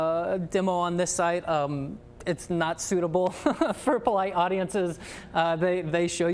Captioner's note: laughs